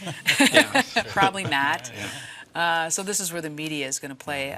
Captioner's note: laughs